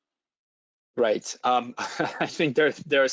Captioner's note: laughs